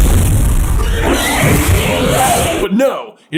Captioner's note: snakey scream